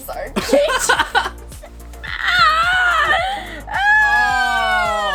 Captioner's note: laughing and groaning